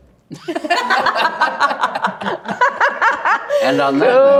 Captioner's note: everyone laughing